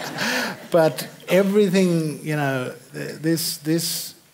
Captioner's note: laughter